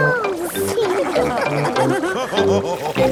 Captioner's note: all laughing